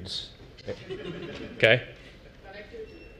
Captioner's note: laugh